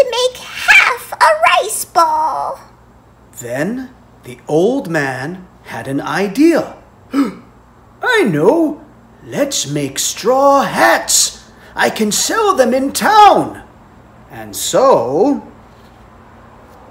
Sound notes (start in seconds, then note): 0.0 exclaims in Japanese; 7.1 gasp